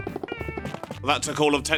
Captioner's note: game Sounds